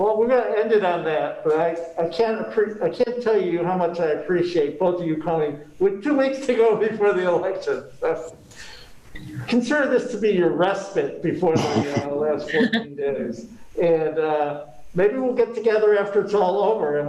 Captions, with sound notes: >> Well, we've got to end it on that but I can't tell you how much I appreciate both of you calling. With two weeks to go before the election. consider this to be your respite before [chuckles] next 14 days. And maybe we'll get together after it's all over.